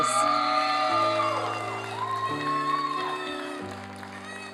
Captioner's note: applause and cheering; soft piano music